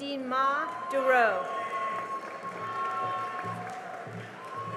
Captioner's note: cheering and applause